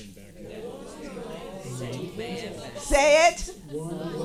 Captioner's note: audience chattering